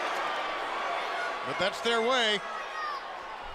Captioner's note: crowd chatter